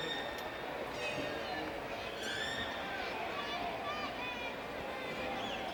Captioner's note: crowd chattering continues